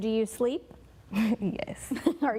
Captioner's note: laughing